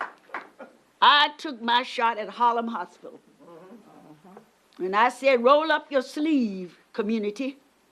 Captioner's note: applause